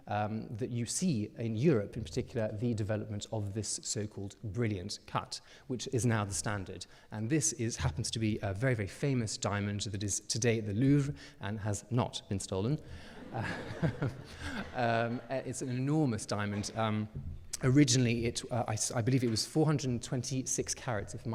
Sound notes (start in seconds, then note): 13.1 audience laughing; 13.2 chuckles